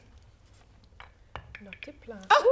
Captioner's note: laughter